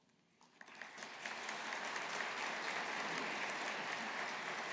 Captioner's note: audience applauding